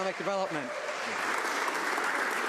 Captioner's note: some Applause